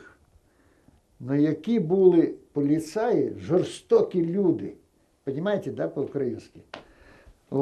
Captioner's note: ukrainian